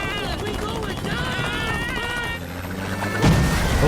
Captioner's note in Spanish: Allan gritando; las aspas del helicóptero zumban; golpes de helicóptero